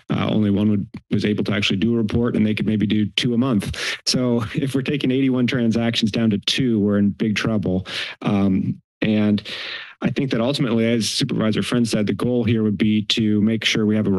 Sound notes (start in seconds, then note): 3.6 chuckles; 9.4 inhales